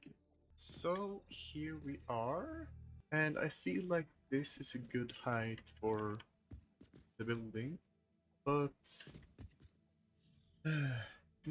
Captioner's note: sigh